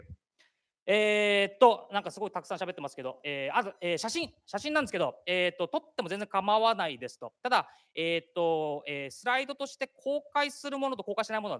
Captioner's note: speaking japanese